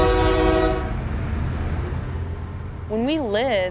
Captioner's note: blasting train horn; ringing bells, traffic sounds